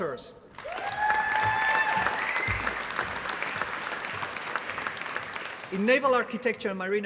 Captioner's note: applause